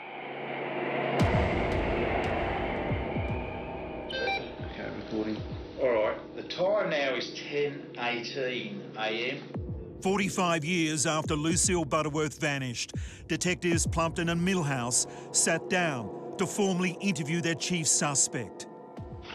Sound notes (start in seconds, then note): 1.5 ominous music; 4.2 camera beeps